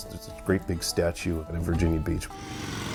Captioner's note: motors rumble